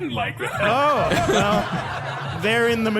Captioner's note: more audience laughter